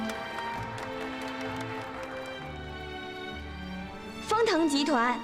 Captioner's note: applause